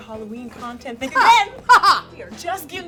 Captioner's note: guffaws